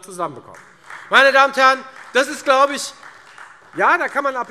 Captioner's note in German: Beifall Freie Demokraten